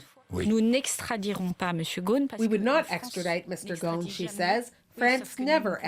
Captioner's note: speaking French